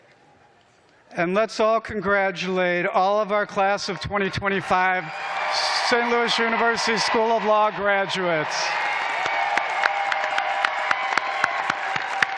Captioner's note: cheers and applause